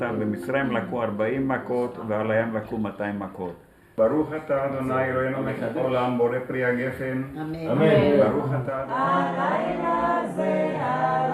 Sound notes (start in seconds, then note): 5.6 speaking in in Hebrew